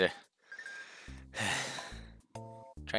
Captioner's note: breathing